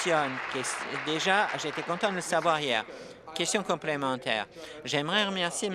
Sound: applause

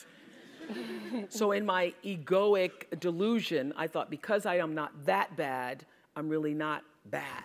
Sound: laugh

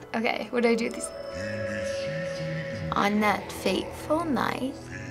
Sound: in game: speaking foreign language

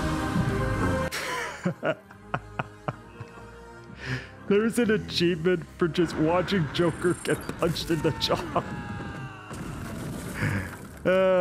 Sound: laugh amusingly

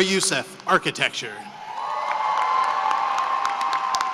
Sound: cheering and applause

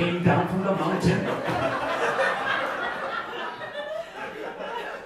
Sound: audience laughing

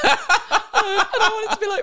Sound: laughing

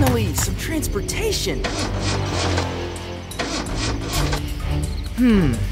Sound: engine sputtering

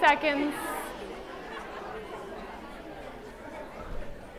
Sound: chattering

